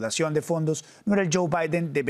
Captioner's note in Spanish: HABLA EN INGLéS